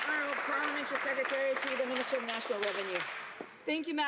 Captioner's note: some Applause